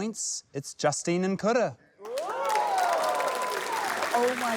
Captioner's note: cheering, applause